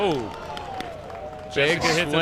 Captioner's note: crowd claps